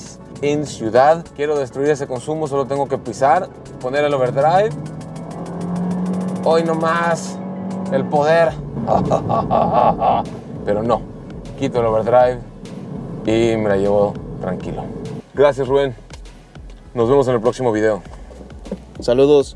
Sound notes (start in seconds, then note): 4.7 engine revving